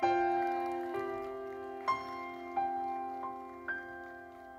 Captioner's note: audience applauding; gentle uplifting music